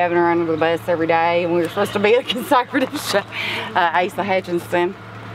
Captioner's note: laughs